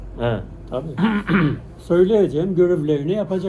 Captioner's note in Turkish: boğazını temizler